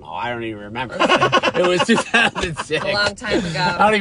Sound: laughing

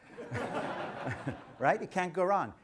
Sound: audience laughter

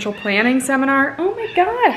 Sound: cat meows

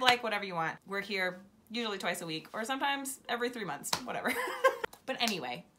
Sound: laughs

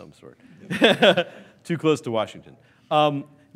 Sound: laughs

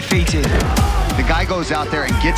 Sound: bodies crash to the canvas

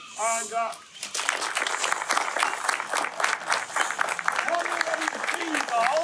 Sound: hands clapping

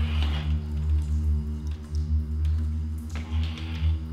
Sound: door creaking

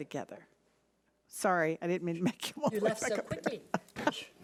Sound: laughing

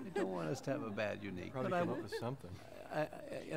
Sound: laughter

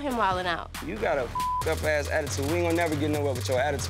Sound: beep

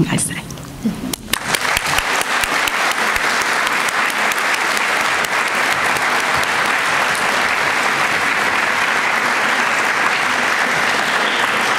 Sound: applause

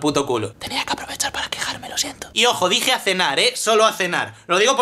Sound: whispers

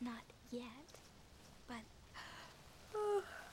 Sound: yawns

